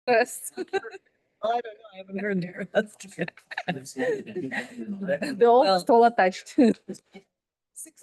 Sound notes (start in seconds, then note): 0.5 laughing